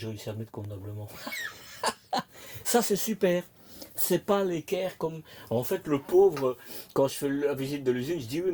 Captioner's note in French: rires